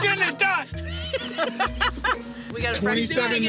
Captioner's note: laughing